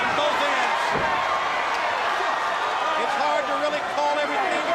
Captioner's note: crowd cheering